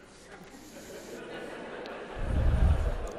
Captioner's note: laughter